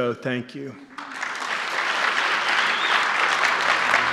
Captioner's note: applause